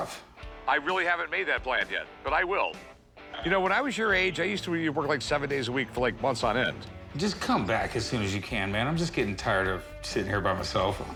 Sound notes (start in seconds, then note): none